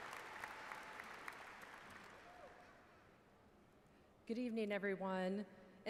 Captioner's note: applause